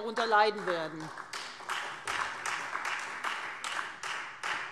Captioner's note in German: Beifall